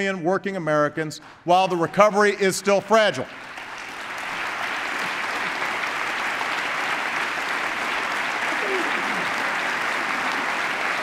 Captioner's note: applause